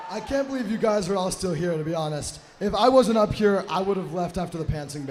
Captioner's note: applause